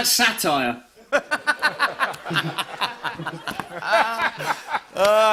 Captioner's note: laughter